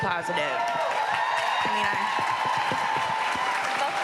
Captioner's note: cheering and applause